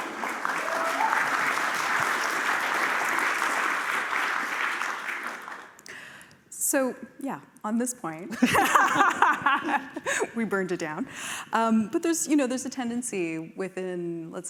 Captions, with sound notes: [applause] - So yeah, on this point-- [laughter] We burned it down. But there's a tendency within, let's say,